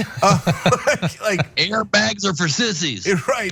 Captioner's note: laugh